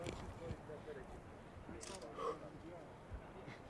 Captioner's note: exhaling sharply